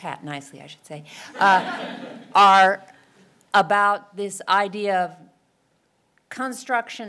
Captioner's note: laugh